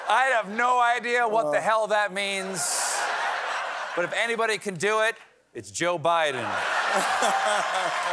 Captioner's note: audience chanting